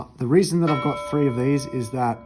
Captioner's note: bell chiming